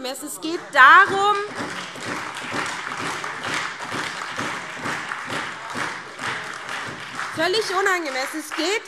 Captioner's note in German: Beifall SPD, AfD, Freie Demokraten und DIE LINKE